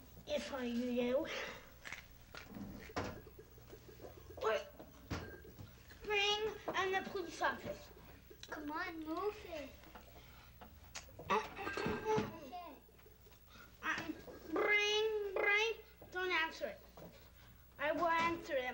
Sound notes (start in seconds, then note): 1.4 munching sounds; 11.4 glasses clinking